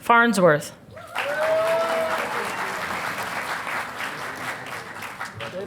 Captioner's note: audience applauding